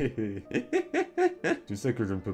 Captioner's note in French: Rires